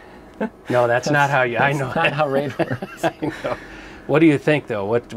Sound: laughing

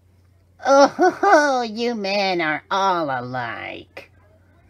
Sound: cries again

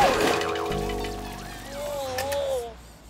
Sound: crashing noises; woozy noises

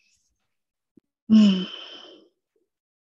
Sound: sighs

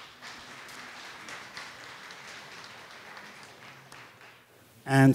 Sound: audience applause

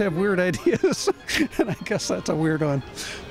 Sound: laughs

